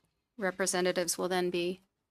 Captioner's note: speaking French